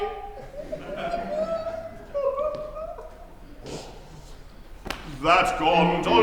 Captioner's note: he weeps